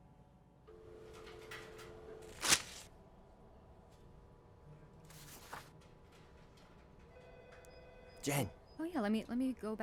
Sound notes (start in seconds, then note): 2.2 paper rip; 5.1 paper shifting; 8.3 whispering